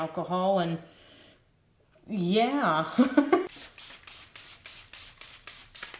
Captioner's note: laughs